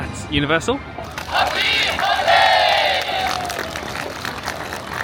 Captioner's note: band members shouting in Japanese; crowd applauding